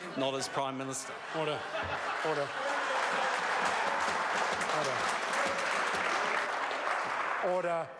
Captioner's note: members applaud